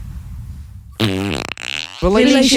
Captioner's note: A big loud, wet fart sound